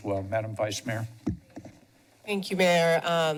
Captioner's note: mic sounds